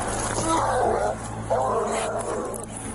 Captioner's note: dog growling